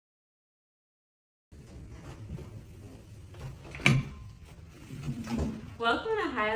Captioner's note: wheels of the chair scratching the ground